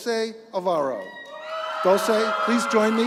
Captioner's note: applause